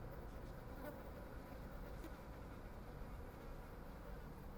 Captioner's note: buzzing